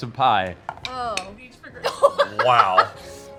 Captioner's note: laughs